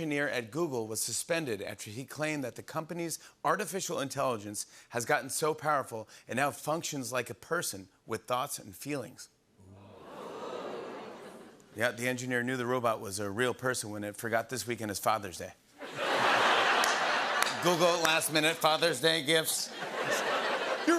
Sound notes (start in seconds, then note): 9.8 audience "Oohs"; 15.8 laughter